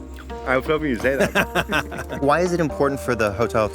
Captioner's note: laughing